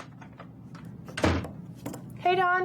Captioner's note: door bangs